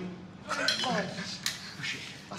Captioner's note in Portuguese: Risada